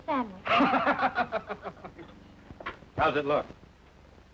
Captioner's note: Flat Top and Judy laughing